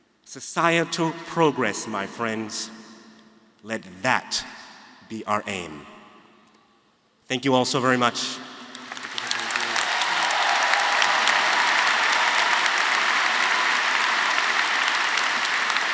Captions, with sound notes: Societal progress my friends, let that be our aim. Thank you all so very much. (audience cheering) (audience applauding)